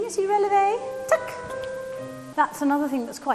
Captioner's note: boink